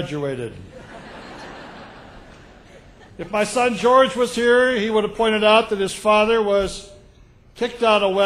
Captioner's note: laughter